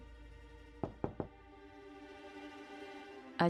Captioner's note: knocking on the door